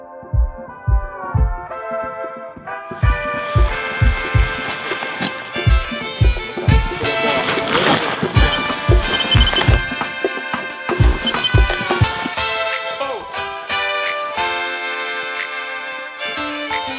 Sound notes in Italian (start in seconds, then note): 1.7 Applauso